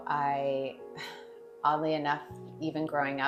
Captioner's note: sighs